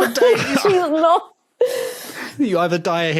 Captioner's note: laughs